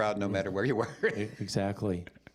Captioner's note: chuckling